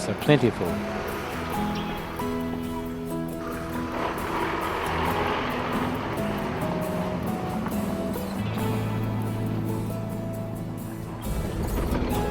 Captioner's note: music background and vehicle sounds